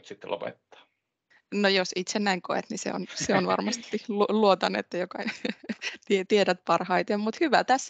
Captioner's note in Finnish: Nauraa